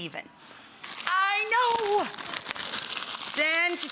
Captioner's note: plastic crinkling